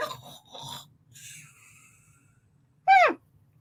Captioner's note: snoring